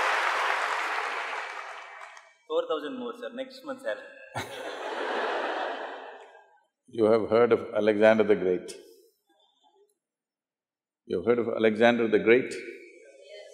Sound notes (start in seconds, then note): 0.0 laughter/Applause; 4.3 Sadhguru laughs; 4.3 laughter